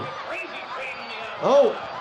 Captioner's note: crowd chattering